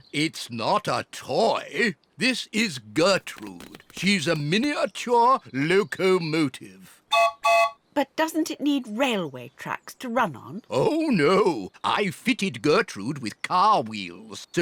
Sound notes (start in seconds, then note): 7.1 toots whistle